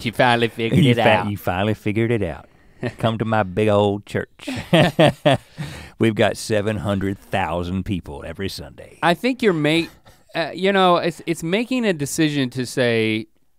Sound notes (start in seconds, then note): 4.4 chuckles